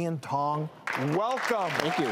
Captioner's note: audience applause